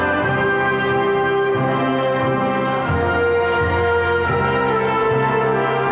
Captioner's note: cheering and applause